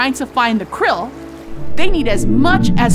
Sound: blue whale call

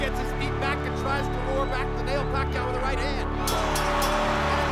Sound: bell rings

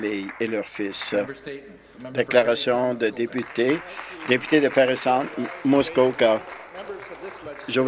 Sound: some Applause

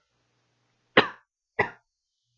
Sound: coughs

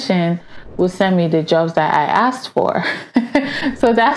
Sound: laughs

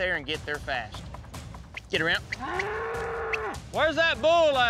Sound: whistling

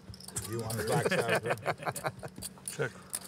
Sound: laughter

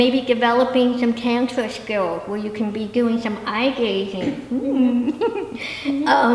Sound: giggle

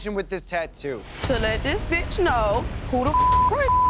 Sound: beep

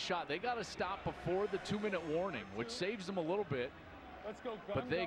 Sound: speaking on the field

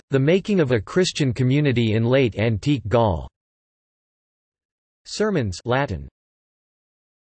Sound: Latin

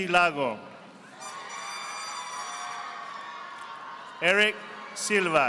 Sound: audience applauding

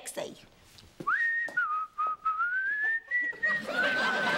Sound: whistling; laughter

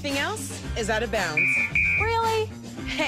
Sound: whistle blowing

